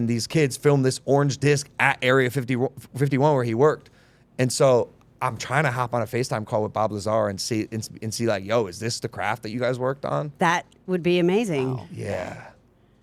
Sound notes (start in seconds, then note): none